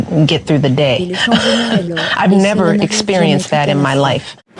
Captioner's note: chuckles